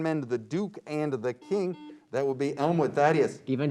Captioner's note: beep